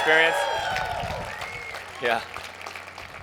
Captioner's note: crowd cheers